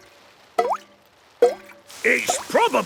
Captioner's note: water dripping